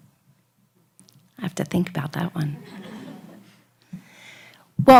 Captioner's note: laughs